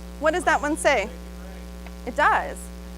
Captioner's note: audience member responds